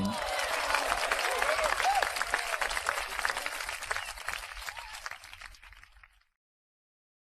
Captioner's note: claps and Cheers